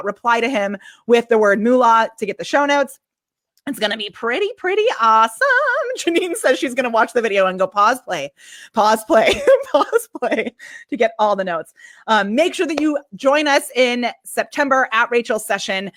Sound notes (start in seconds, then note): 10.4 laughs